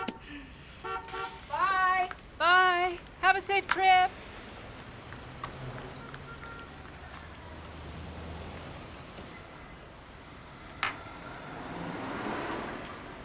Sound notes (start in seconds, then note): 0.8 horn beeping; 4.6 traffic passing